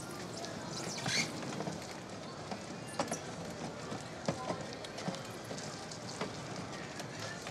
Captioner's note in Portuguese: ruído de cadeira de rodas